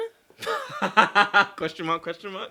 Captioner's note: laughing